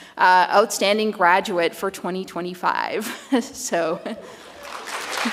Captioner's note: chuckles